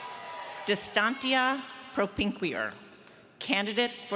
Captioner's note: speaks in foreign language